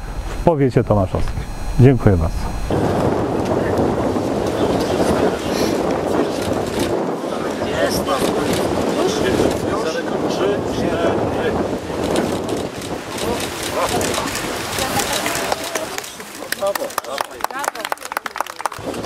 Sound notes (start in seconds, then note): 3.1 szum, wiatr, głosy